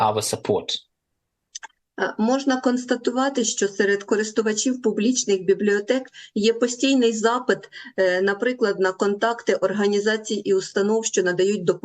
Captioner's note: foreign language